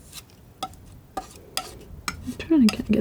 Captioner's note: tapping; tapping